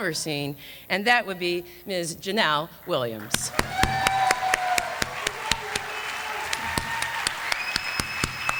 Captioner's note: applause